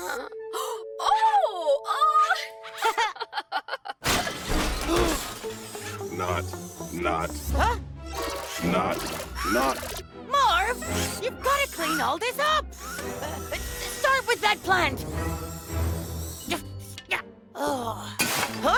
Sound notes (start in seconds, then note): 1.1 Beenz laughs; 4.0 intense furniture breaking; 5.1 Cozmo gasps; 15.7 Cozmo grunting